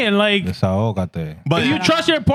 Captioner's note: speaking In Foreign Language